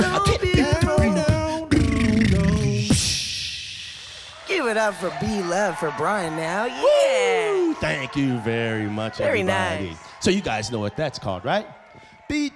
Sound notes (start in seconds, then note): 3.3 crowd cheering